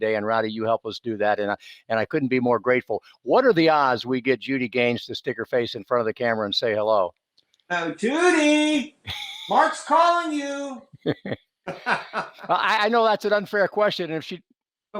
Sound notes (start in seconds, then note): 9.0 chuckles; 11.6 laughs